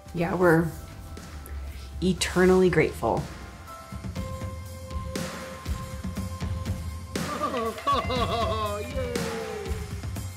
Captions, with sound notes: - Yeah, we're eternally grateful. - [Cheers] Oh, yay.